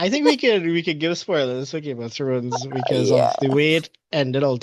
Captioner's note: laughs